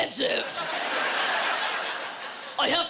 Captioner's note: laughter